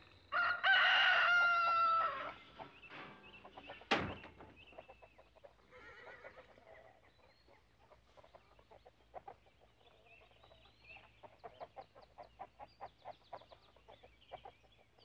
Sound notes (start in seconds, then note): 0.3 rooster crowing; 3.7 door slamming; 5.7 horse whinnying